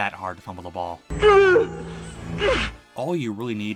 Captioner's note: Awkward Keanu Reeves Grunting